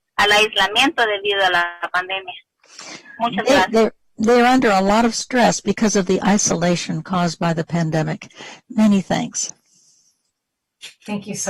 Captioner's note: speaking spanish